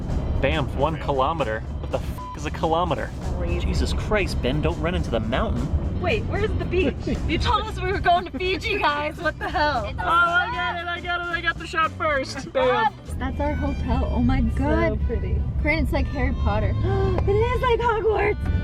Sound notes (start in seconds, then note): 9.2 laughing; 9.8 excitement; 17.0 gasp